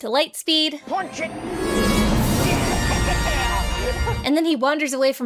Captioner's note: heroic music; laughing